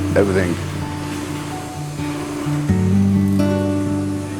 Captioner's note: sparks fizzle